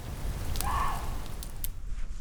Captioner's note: bark